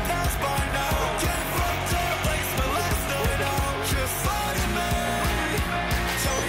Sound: boo!

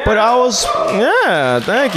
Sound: audience cheers

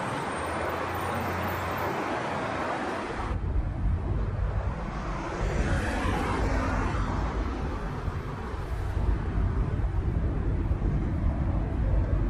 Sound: street noises

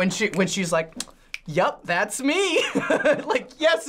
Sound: laughing

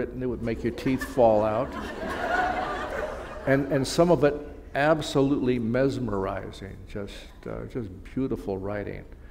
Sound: laughter

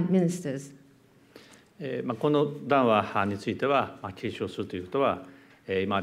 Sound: speaking japanese

